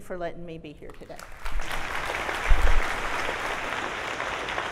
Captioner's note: audience applauds